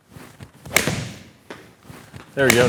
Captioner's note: golf club smacking